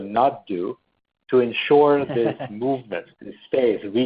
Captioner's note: laughs